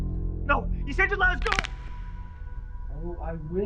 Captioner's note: neck cracks